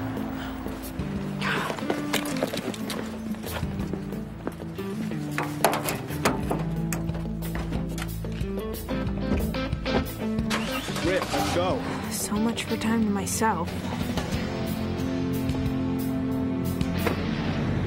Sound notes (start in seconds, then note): 10.2 car engine revving; 14.2 rock music